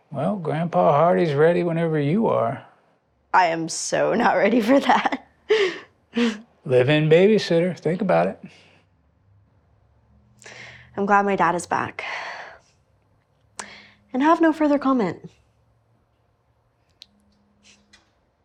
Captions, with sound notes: Well, Grandpa Hardy is ready whenever you are. I am so not ready for that. [laughs] Live-in baby-sitter. Think about it... I'm glad my Dad is back... [sighs] And I have no further comment.